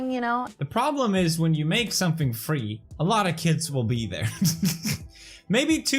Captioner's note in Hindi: हंसते हैं